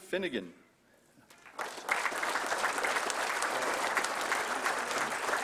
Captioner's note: applause